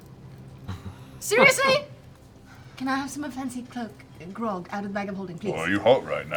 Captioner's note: sighs